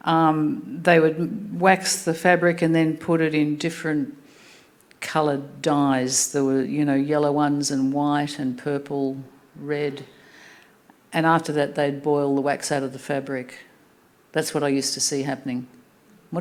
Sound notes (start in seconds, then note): none